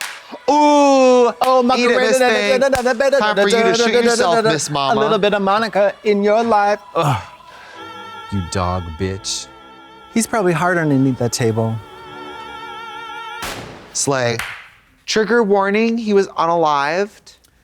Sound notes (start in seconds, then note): 13.4 gun firing